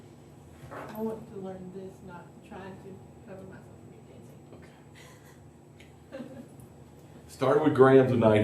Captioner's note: laughter